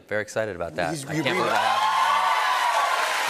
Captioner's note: cheers and applause